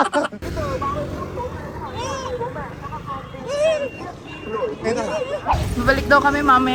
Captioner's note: laughing SFX; laughing; traffic noise